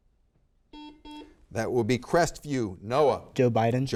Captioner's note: buzzer beeps